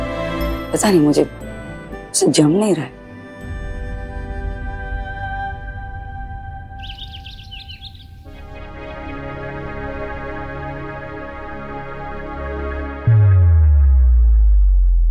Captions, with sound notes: I'm not sure but I don't agree with you. [birds chirping]